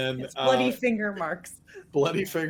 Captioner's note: laughing